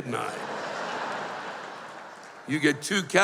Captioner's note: laughter